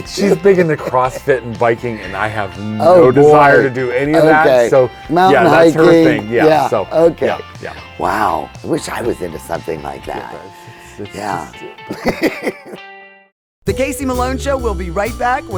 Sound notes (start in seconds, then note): 11.0 laughing